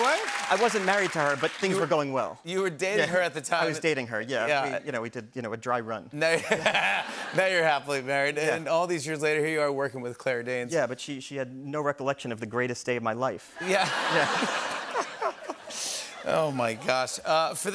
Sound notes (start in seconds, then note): 6.3 laughter; 13.6 laughs